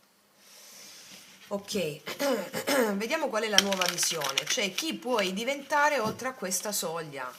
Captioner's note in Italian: tosse; schiarire la voce